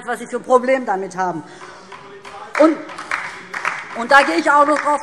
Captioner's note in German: Beifall DIE LINKE - Zurufe CDU und BÜNDNIS 90/DIE GRÜNEN